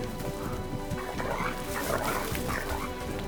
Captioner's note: dogs growling